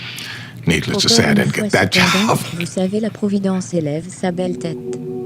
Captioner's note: laughs